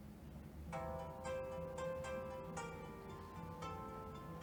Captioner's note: phone starts ringing